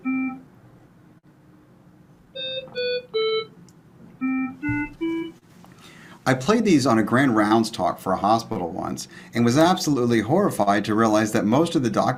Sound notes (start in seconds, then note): 4.2 plays flat IEC medical tones